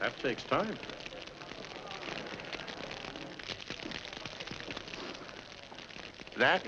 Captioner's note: fire crackling